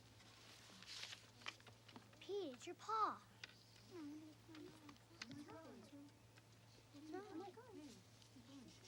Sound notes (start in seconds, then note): 4.5 kids murmuring